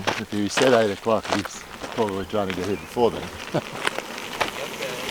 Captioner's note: chuckles